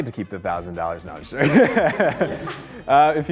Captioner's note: group laughs